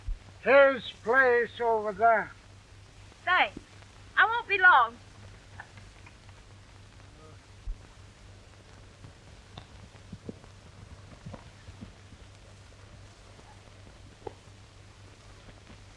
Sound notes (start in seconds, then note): none